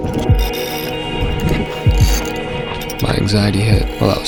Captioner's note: crank clicks